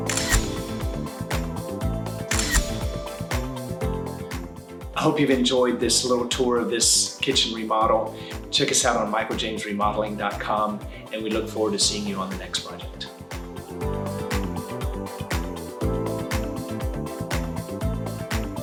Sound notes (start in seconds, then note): 0.0 camera clicks; 2.3 camera clicks; 14.3 upbeat music